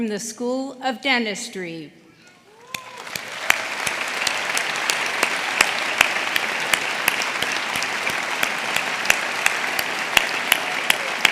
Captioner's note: applause